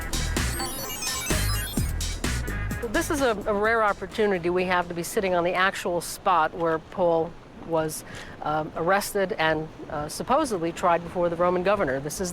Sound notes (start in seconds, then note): 0.0 electronic whirring